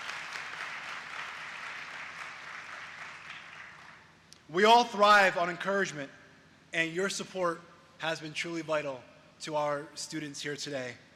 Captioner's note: applause